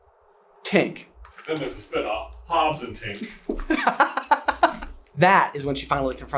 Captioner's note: giggles